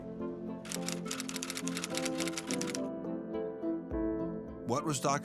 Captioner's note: typewriter clacking